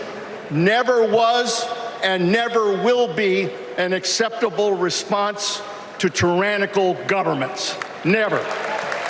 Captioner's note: applause